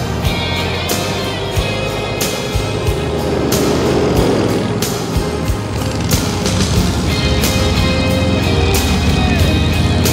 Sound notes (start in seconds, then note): 3.9 calm music; 3.9 motors humming